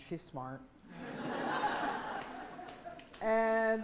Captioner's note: laughing